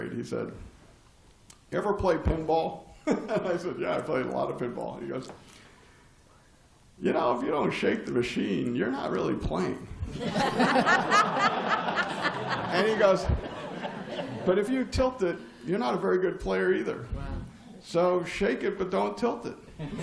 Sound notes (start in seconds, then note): 2.5 laugh; 10.0 laughter